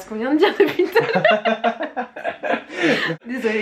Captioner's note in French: rires